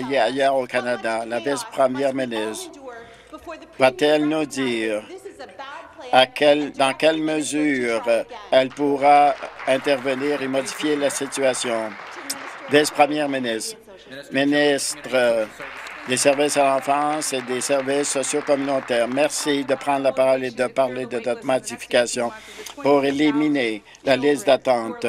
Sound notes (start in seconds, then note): 11.5 applause